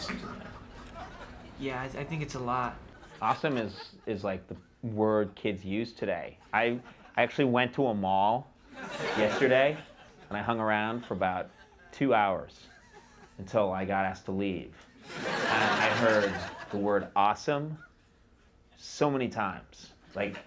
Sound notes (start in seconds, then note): 15.0 audience laughing